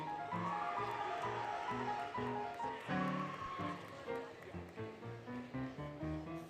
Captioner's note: applause, Cheering, Music